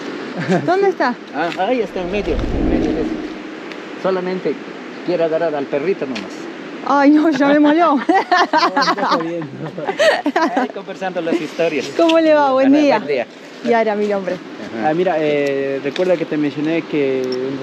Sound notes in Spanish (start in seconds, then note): 10.4 risas